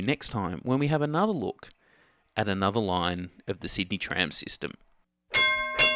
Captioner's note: tram bell